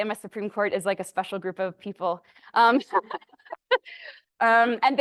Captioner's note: laughs